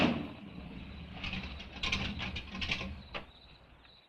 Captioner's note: crickets chirping